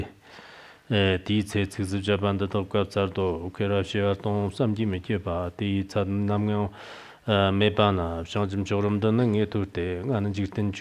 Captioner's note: giving oral transmission in Tibetan